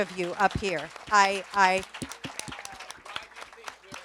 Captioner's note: audience applauds